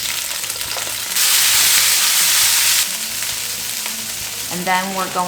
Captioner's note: vegetables sizzling